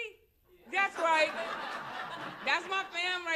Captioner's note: laughter